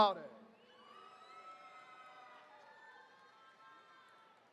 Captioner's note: attendees cheering